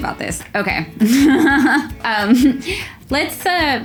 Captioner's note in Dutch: lacht